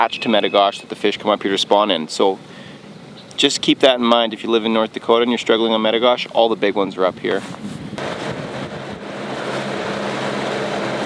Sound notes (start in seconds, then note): 8.0 motor growling